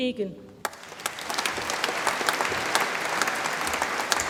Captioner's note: audience applauds